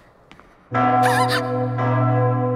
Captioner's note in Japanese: 鐘の音